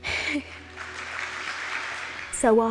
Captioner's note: audience applauds